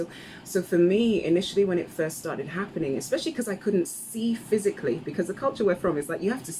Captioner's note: none